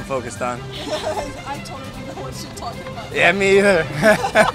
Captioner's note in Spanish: Risa incómoda